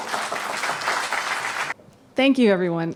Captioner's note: applause